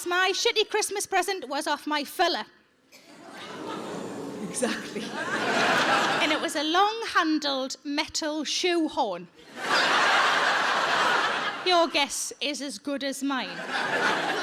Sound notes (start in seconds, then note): 3.1 audience gasping; 5.6 audience laughing; 9.5 audience laughing